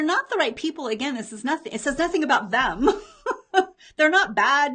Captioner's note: laughs